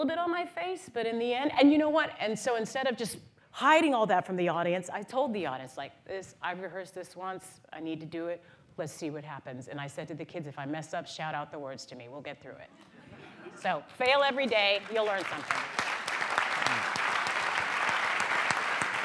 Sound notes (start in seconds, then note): 13.9 applause